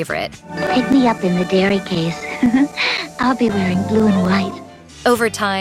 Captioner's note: giggles